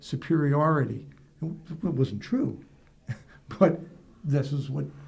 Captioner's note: laughs